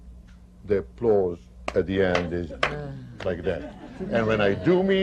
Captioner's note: claps slowly; laughter